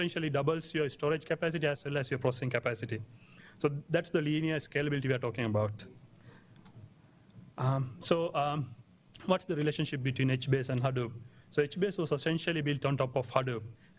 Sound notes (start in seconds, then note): 5.8 pause